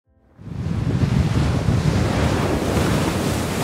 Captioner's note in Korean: 파도가 부딪히는 소리